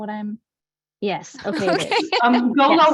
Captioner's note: both laugh